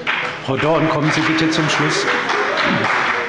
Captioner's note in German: Beifall bei dem BÜNDNIS 90/DIE GRÜNEN und der CDU